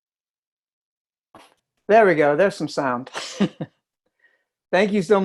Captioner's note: laughs